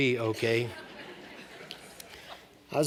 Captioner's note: laughter